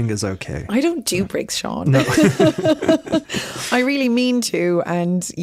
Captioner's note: they laugh